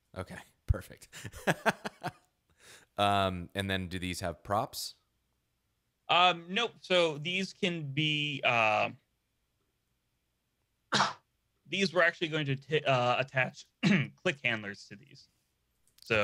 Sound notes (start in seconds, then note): 1.6 laughing; 10.9 coughing